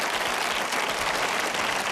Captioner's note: applause